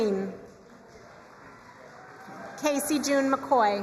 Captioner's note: crowd cheering and applauding